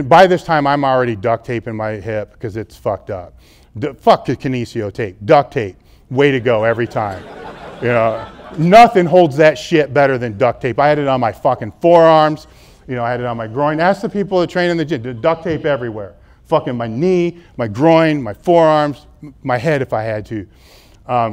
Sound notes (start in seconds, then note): 6.3 audience laughs